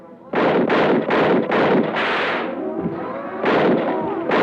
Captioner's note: gunshots blasting